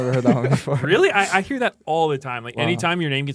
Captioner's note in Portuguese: risos